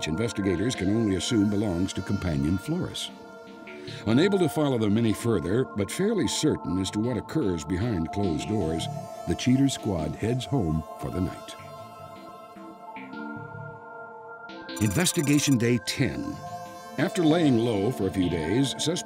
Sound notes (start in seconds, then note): 14.8 beeps